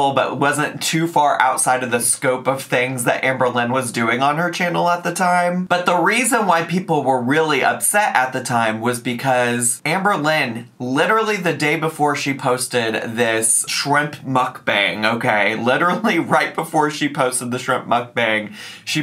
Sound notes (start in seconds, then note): none